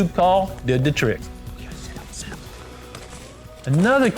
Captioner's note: whispering